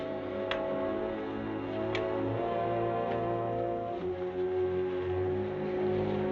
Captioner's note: suspenseful music continues; band rustling